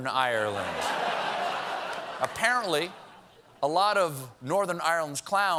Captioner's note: laughter